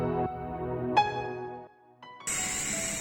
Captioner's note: background Music And Winds Sound; Exceed Induction RC Helicopter Starts Flying